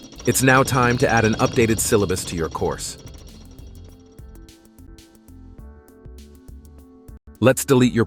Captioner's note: gears spinning